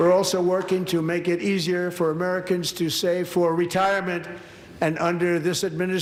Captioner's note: applause